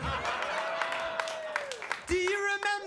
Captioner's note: audience applauding